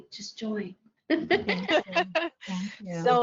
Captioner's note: laughter